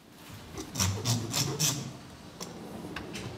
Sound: scratching rattling

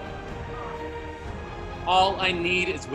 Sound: audience responding

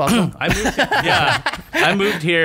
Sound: laughter

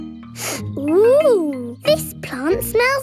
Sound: sniffs

